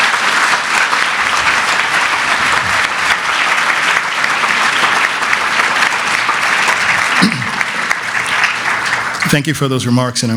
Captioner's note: applause